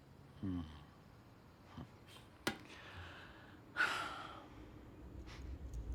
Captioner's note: grunting and sighing